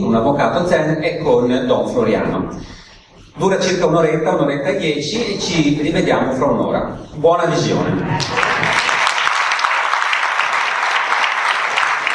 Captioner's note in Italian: Applauso